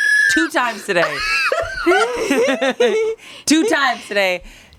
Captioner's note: everyone laughs